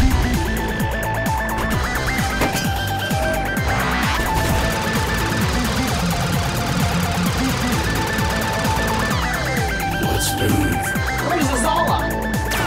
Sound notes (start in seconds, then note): 0.1 upbeat synth music; 3.7 lasers zapping